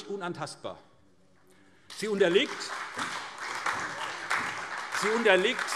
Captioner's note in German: Beifall SPD